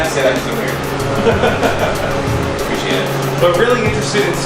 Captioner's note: laughing